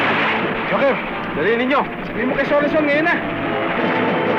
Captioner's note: non-english speech